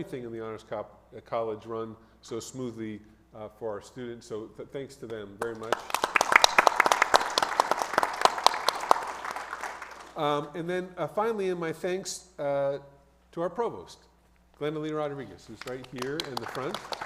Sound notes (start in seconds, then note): 5.5 audience applauds; 15.5 audience applauds